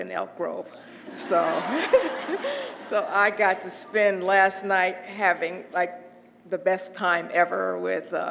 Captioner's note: laugh